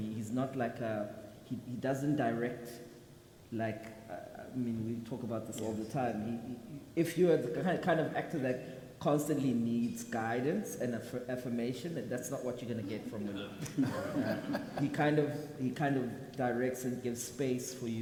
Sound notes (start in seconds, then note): 13.4 people laugh